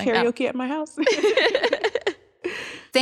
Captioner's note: laughter